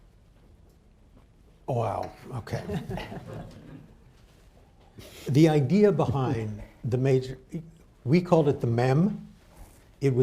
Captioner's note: laughter